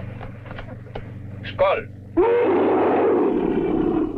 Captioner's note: Pete roaring